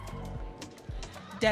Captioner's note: audience cheering